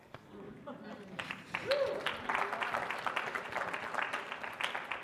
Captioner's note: audience applauding